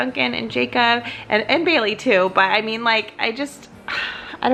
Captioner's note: sighs